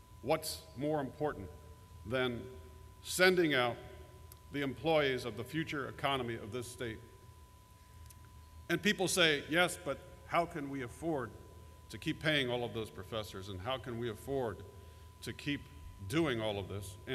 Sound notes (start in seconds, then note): none